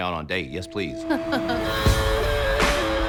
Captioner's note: laughs